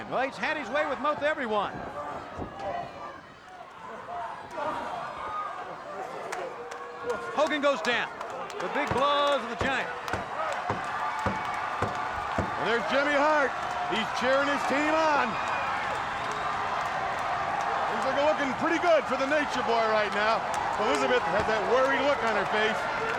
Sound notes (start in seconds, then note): 2.5 wrestlers grunting; 4.1 crowd shouting; 11.7 fists booming; 16.2 crowd roaring